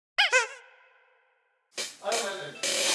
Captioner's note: Nattering with Nah